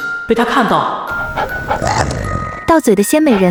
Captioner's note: 狗喘氣聲